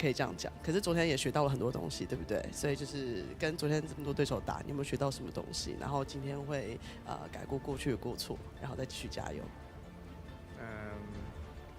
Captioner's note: speaking chinese